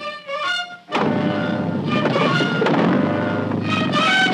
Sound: motor roaring

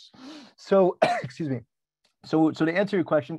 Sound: coughs

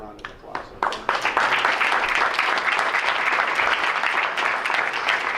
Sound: crowd applauds

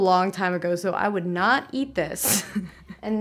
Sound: laughs

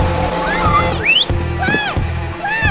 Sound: whistle

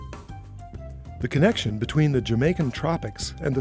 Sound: voiceover

